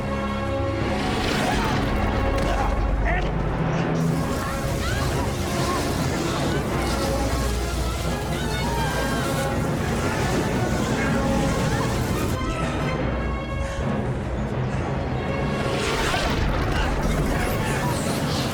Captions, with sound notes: Andy! (both screaming) Don't let go!